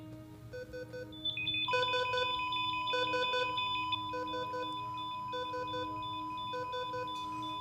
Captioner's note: heart monitor stops alarms sound